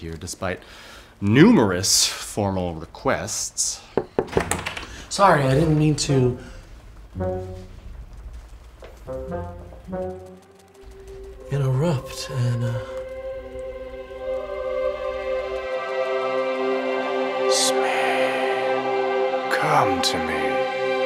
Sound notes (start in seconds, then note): 4.0 knocking on door; 16.0 angelic music